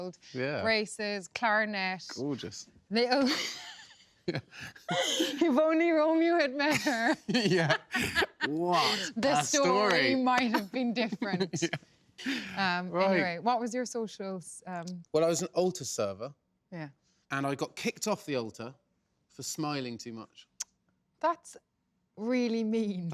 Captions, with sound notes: – Yeah. – Braces, clarinet. – Gorgeous. – [LAUGHS] – If only Romeo had met her... – Yeah! – What a story. – ..the story might have been different. Anyway, what was your social...? – Well, I was an altar server. – Yeah. And I got kicked off the altar for smiling too much. That's really mean.